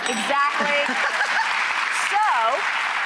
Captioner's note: audience applauding